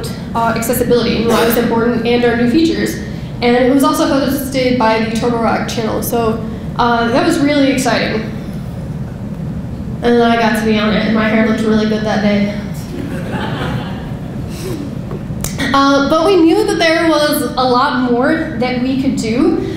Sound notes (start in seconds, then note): 12.8 audience laughing